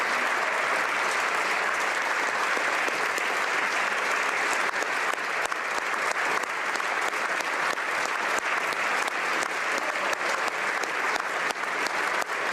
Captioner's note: applause